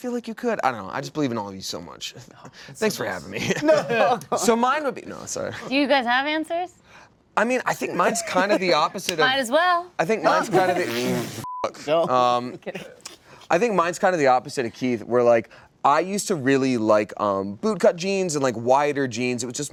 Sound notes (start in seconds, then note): 11.4 beep; 12.2 laughter